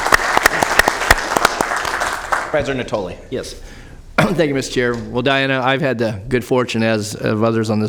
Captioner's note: applause